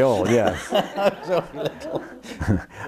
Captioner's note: laughs